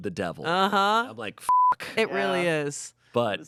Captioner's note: beep